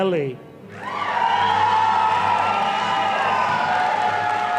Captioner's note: audience applauding